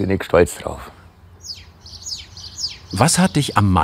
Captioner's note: birds chirping